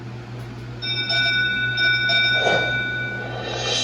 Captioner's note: final Spin Sound